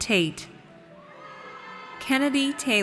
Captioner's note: audience cheers